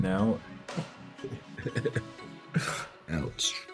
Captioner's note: laughing